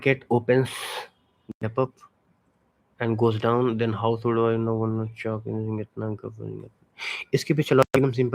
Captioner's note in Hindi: नाक से की जाने वाली आवाज़